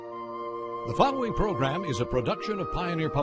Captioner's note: voiceover